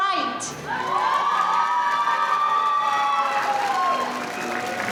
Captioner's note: audience cheering